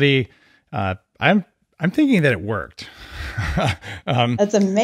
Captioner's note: chuckles